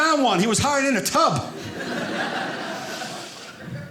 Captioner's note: audience laughing